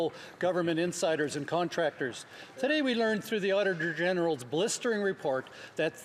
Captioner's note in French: voix de l'interprète